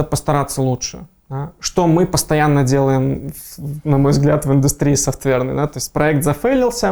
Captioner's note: laughing